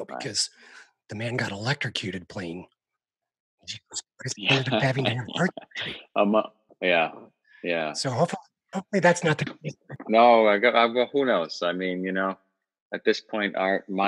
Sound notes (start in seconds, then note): 4.4 chuckling